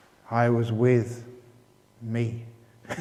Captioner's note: laughter